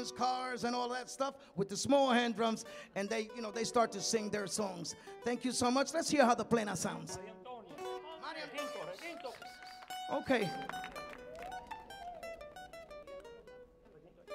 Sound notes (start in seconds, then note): 7.5 man speaking in Spanish; 11.6 light music